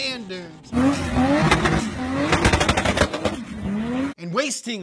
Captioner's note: engine whirring